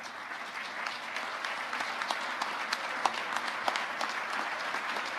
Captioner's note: audience applauding